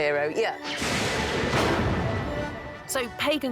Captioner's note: thunder